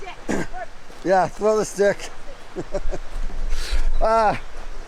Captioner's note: laughing